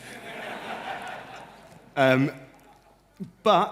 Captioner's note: laughter